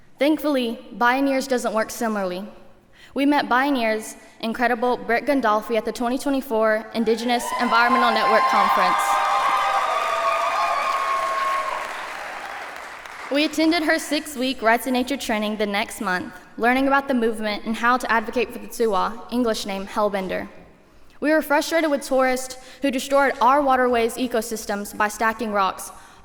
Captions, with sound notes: Thankfully, Bioneers doesn't work similarly. We met Bioneers' incredible Britt Gondolfi at the 2024 Indigenous Environmental Network Conference. [cheering] [applause] We attended her six week Rights of Nature training the next month, learning about the movement and how to advocate for the juwa, English name hellbender. We were frustrated with tourists who destroyed our waterways' ecosystems by stacking rocks